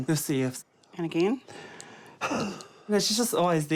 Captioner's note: exhales forcefully